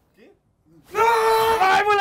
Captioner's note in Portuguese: gritando